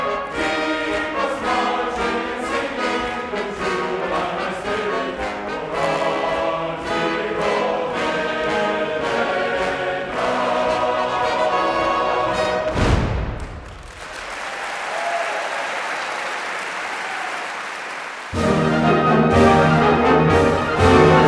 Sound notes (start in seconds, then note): 12.7 foot Stomp!; 13.6 cheers! Applause!